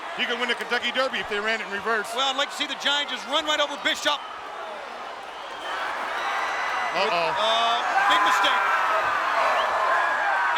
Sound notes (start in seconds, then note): 5.5 audience cheering